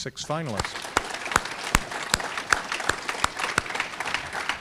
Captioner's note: audience clapping